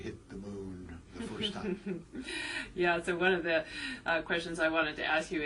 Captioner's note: laugh